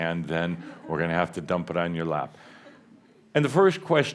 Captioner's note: a few chuckles